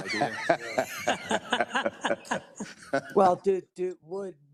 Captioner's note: all laughing